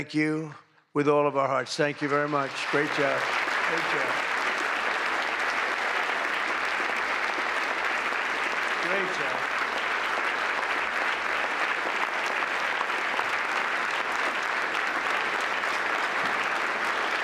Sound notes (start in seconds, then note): 8.7 applause